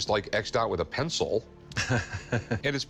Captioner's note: chuckles